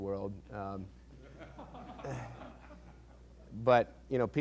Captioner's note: laughter